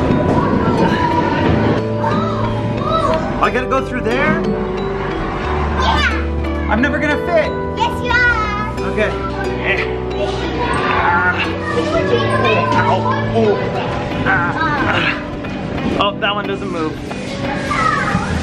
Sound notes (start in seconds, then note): 13.4 grunts